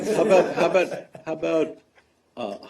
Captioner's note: laughter